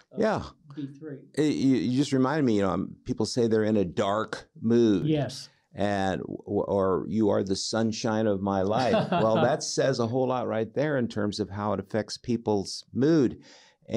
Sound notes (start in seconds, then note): 8.7 laughing